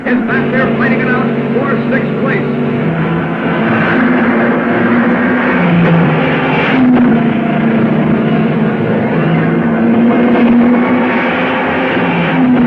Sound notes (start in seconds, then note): 3.4 cars revving; 3.4 dramatic music